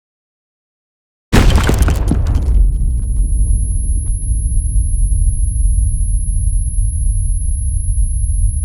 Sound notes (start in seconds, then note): 1.3 explosion